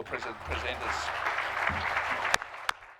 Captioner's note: applause